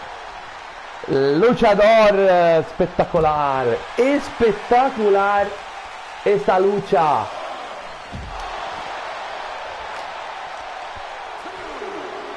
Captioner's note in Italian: Applauso